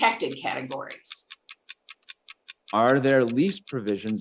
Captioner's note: timer continues ticking